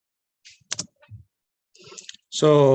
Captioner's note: keyboard clacks